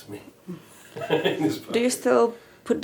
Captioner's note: chuckling